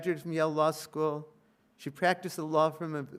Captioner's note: none